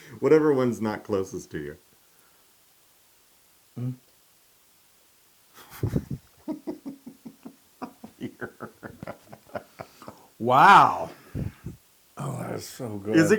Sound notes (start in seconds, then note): 7.8 laugh